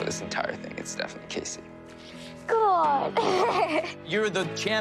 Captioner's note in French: laughs